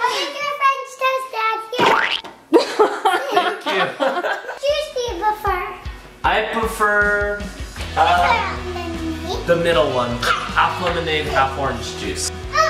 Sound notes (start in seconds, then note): 2.6 laughing